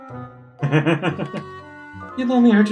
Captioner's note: laughs